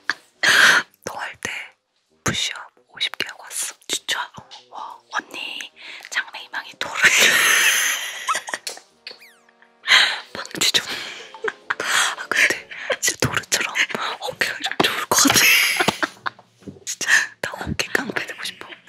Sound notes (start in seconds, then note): 8.2 falls down laughing